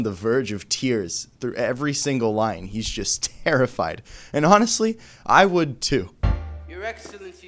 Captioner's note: terrified